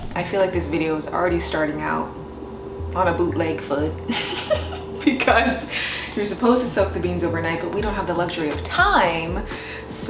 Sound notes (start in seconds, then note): 4.1 laughs